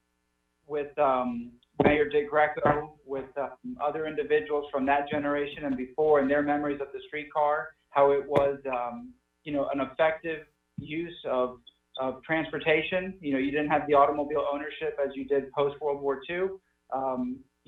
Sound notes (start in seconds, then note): 10.1 audio distortion